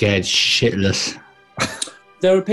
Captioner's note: chuckling